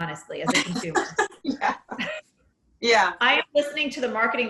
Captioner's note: chuckling